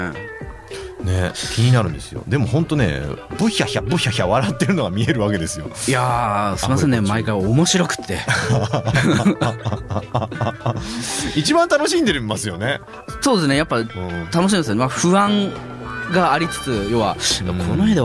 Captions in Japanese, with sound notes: ね、気になるんですよ。でも本当ね、ぶひゃひゃぶひゃひゃ笑ってるのが見えるわけですよ。 いやあ、すいませんね。毎回面白くって [笑い] 1番楽しんでますよね。 そうですね。やっぱ楽しいんですよね。 ま、不安がありつつ、要はこの絵で分かってもらえるかなとか、あ、